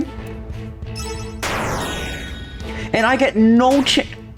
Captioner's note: Fredbear Explodes